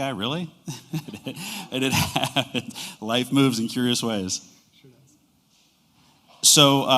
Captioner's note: laughter